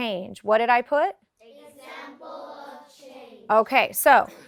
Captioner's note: class in unison